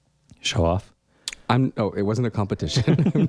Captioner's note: laugh